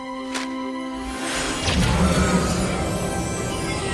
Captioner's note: whoosh